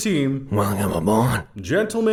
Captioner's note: mumbling